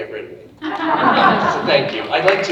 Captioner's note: audience laughing